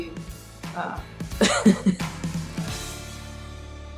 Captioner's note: chuckles